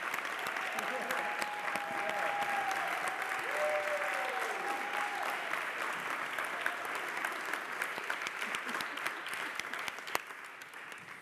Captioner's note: applause